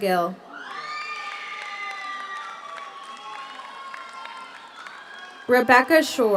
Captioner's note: audience cheers; audience applauds